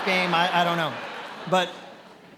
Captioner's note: attendees laughing